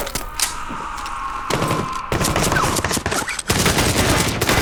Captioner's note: Chuck screaming